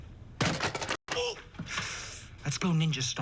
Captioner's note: inhales sharply